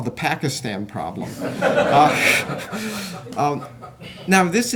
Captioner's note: laughter